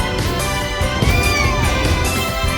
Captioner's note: Caprice meows